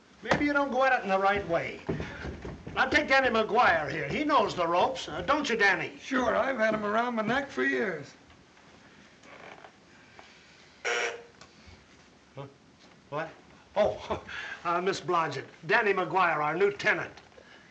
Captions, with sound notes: Maybe you don't go at it in the right way. Now, take Danny McGwire here. He knows the ropes. Uh, don't you, Danny? Sure, I've had 'em around my neck for years. [bell buzzes] Huh! What? Oh. [chuckles] Uh, Ms. Blodgett, Danny McGuire, our new tenant.